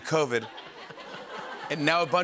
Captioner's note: laughter